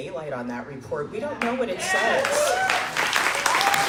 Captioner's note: crowd Cheering